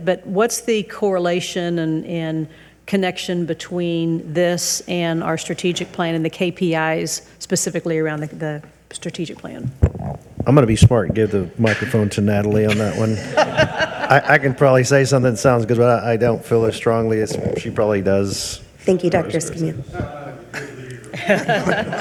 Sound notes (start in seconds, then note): 12.6 audience laughs